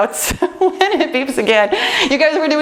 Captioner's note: laughs